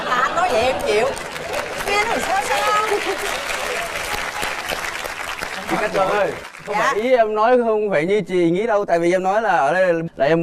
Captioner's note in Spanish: Aplaudir